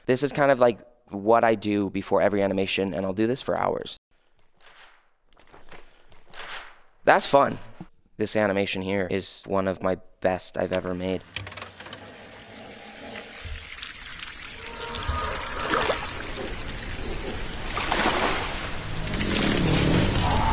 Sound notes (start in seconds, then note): 4.9 paper rustling; 10.7 machine clicking; 12.1 eerie music; 13.6 water sloshing